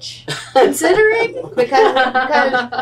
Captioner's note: laughter